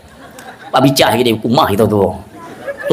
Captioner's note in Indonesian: tertawa